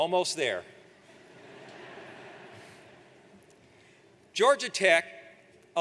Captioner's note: audience laughs